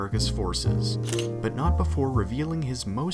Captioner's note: camera shutter